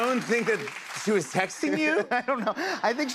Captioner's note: laughs